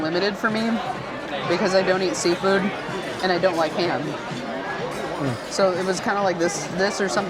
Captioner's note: crowd chattering